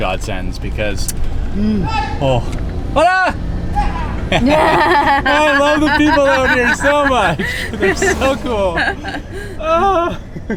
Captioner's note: yelling and laughing